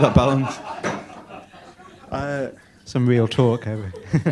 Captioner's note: laughter